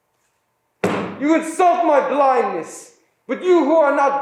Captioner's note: staff banging